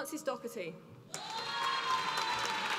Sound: applause

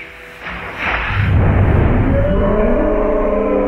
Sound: reverberating thudding; yelling

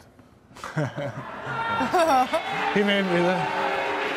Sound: audience oohing

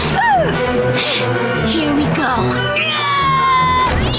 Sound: meowing; screaming

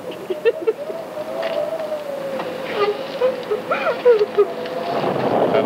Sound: wind howling; Fran sobs

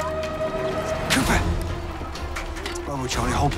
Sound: whispers

